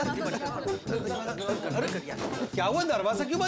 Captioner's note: chatter